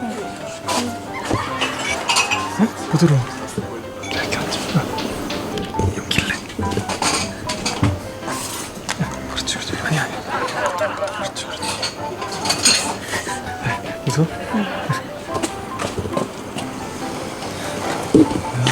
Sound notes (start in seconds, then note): 4.7 whisper; 6.2 whisper